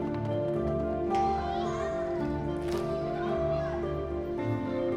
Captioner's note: children chatter